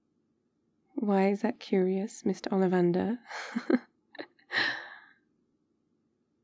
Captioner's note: laughs